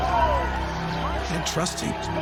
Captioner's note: crowds cheering